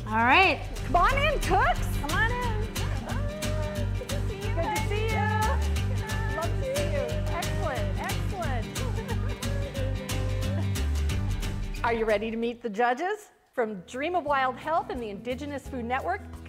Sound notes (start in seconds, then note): 10.6 laughs